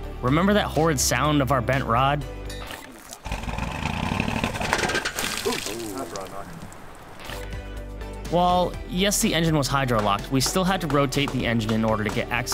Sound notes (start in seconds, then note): 3.2 exhaust sputtering; 4.1 fluid splashing; 4.9 exhaust sputtering fades